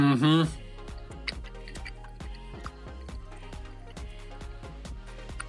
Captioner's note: sizzling